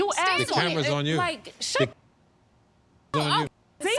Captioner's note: muted